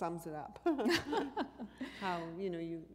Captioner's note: chuckle